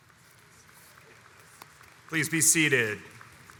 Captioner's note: audience applauds